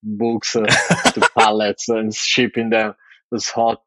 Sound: <Laugh>

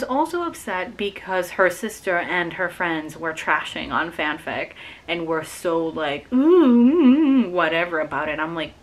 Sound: annoyed noises

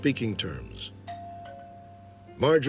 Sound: doorbell rings

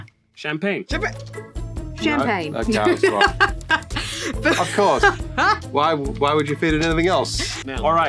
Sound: laughing

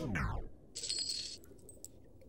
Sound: jingling

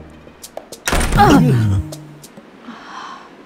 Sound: door thudding

